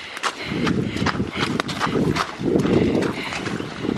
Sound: heavy breathing

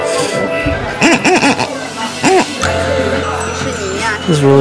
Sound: squeaking

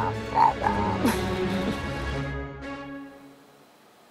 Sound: laughs

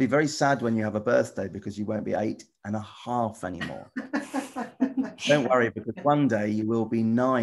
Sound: laughter

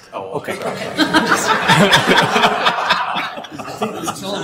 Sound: everyone laughing

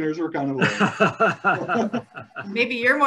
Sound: laughing

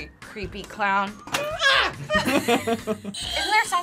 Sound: screams; both laugh

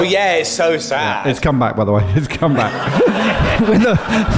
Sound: laughing

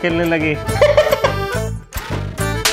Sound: laughing

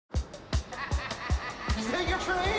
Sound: distant laughter

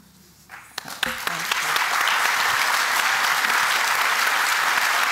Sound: applause

